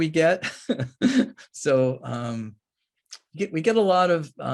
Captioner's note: laughs